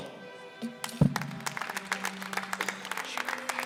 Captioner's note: applause